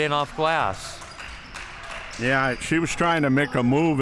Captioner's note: crowd cheering